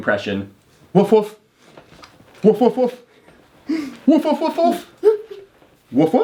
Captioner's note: imitating dog barking